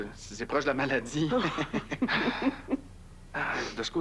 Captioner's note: Rires